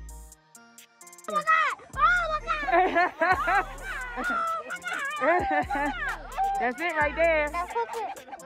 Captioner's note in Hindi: चिल्लाना और हंसना